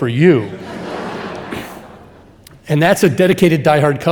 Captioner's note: audience laughing